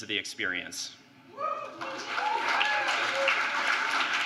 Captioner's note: applause